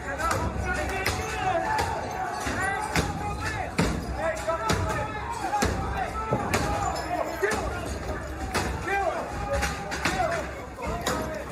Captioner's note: banging; yelling